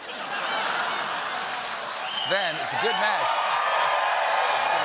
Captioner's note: cheers and applause; laughter